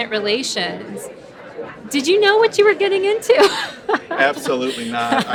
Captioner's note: laughing